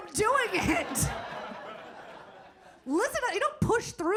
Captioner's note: audience laughing